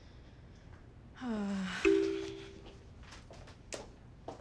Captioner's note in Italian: Ariana sospira